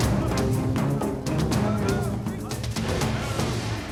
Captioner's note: shouting